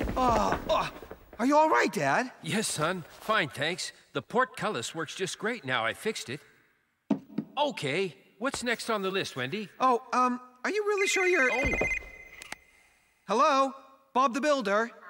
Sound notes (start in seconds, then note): 11.4 cell Phone Rings